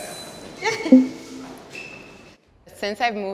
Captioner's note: poll result beeps